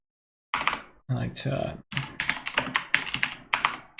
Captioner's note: types keyboard